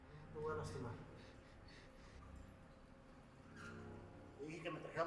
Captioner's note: man speaking foreign language